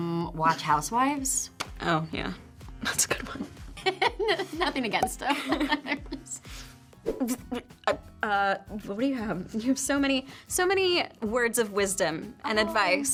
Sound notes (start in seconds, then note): 5.4 graphics pop; 5.9 Brianne laughs; 7.0 graphics swoosh